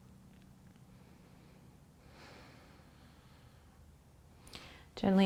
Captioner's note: breathing